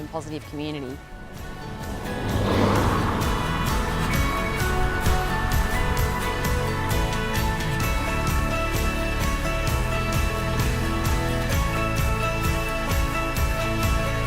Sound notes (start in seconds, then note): 1.0 car zooms; 2.1 bright music